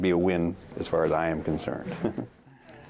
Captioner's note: chuckles